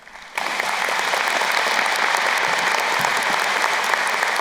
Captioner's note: crowd applauding